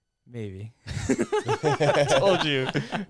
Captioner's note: laughing